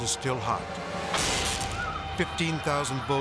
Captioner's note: electricity zaps; people screaming